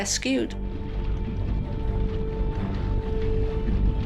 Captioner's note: sea bubbles